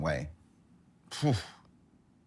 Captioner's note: huffing